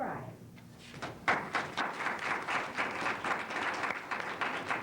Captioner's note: applause